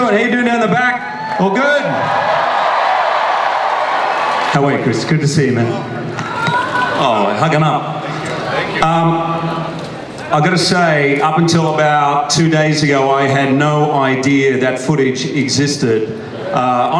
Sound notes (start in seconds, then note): 1.0 audience cheers